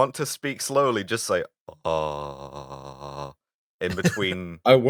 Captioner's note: pilot voice